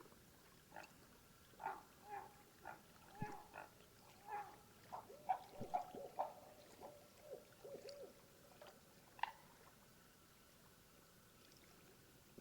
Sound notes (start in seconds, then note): 4.2 heron murmers; 7.6 owl Hoots